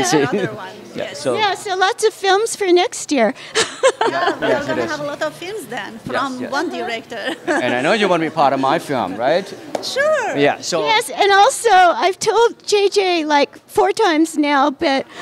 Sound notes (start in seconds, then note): 3.6 laughter